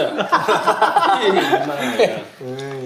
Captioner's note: OR KIA laughs